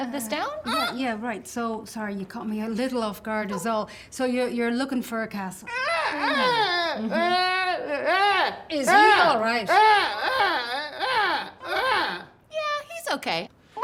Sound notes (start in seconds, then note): 0.1 squeaks; 5.7 grunting